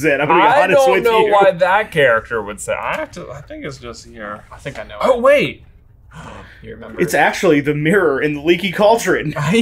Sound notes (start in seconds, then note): 6.0 gasps; 9.5 laughs